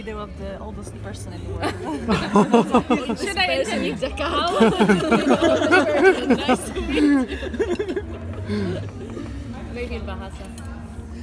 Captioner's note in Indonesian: Tertawa